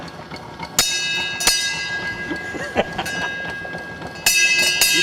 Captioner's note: ding Ding Ding; ding ding